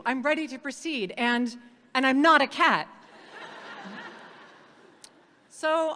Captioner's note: audience laughing